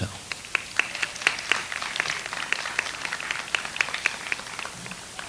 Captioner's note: audience applauds